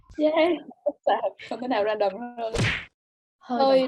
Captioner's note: laughing